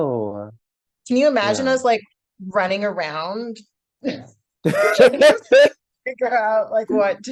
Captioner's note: both laughing